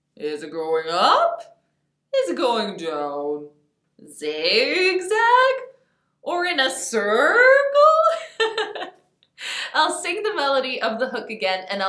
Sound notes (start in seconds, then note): 8.1 laughs